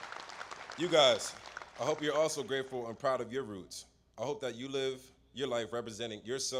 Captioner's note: applause